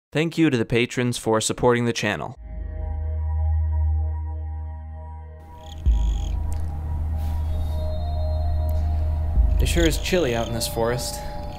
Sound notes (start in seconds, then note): 2.3 ambient music; 2.5 crickets chirping